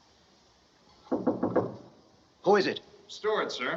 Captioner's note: knocking